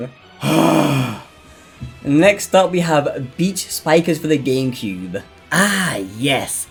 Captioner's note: sigh